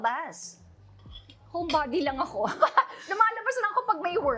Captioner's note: chuckles